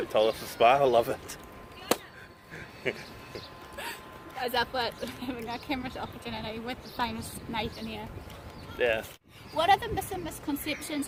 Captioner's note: both of us laughing